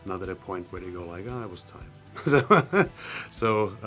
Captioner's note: laughs